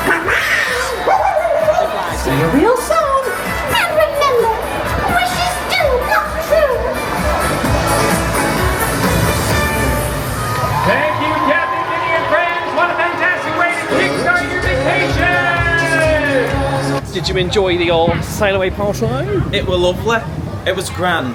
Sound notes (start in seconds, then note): 1.9 Pluto barks; 7.5 crowd cheers; 7.5 upbeat music